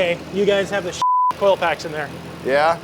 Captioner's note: beep